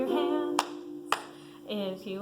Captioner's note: someone claps